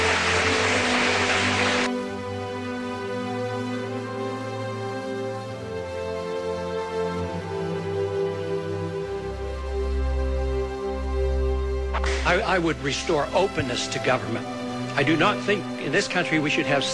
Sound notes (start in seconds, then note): 2.8 cheers and applause